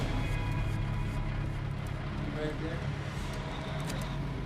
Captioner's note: truck rumbling